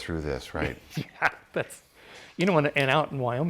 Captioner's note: laughs